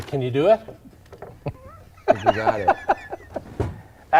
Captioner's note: laughter